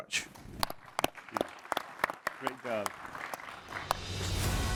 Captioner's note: applause